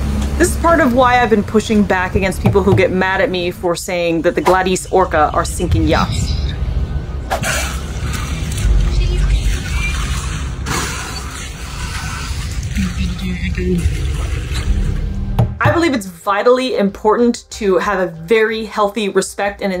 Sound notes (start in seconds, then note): 7.1 background boat noise; 7.4 orca spouting water noise; 10.4 background boat noise; 10.4 orca spouting water noise; 14.0 background boat noise